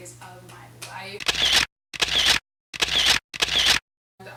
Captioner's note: repeated camera shutter